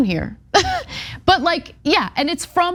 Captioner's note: laugh